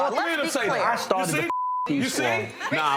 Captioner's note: beep